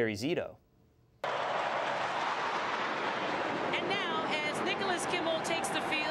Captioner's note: applause